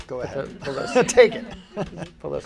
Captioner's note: laughing